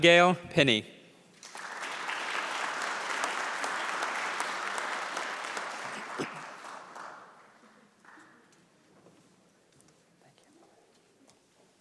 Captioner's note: applause